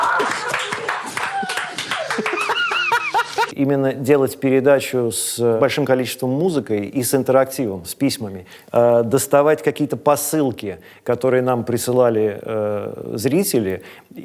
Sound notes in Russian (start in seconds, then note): 1.9 хохочет